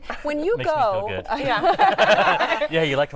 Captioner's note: laughter